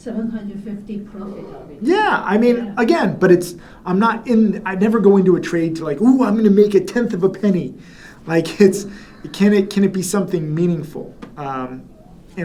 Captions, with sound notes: 750 profit. - Yeah, I mean, again, but I'm not, I never go into a trade to like, "Ooh, I'm gonna make 1/10 of a penny." (chuckles) It's, can it be something meaningful?